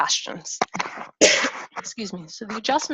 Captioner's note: coughs